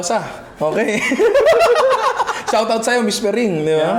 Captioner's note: laughs